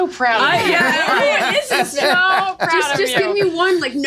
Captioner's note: laughing